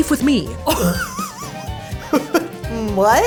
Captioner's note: both chuckling